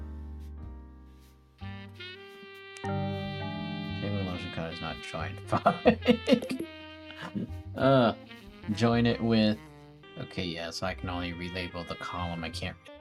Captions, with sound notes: *mumbling to self" F*ck. *irritated sigh* JOIN it with... Okay, yeah. So, I can only relabel the column. I can't...